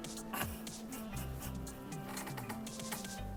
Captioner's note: laughing